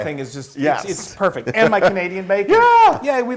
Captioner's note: laugh